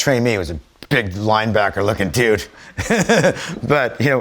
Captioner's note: laughs